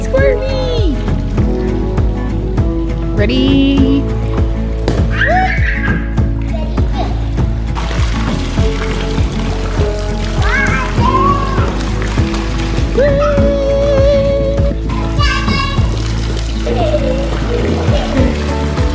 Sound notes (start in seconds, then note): 5.1 screaming; 8.3 water splashing; 11.0 yelling